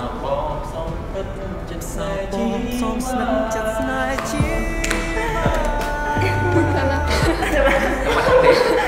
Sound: laugh

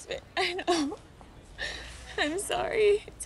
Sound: laughs

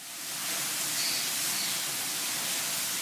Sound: waterfall and birds chirping

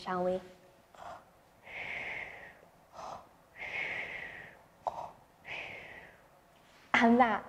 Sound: makes snoring noises

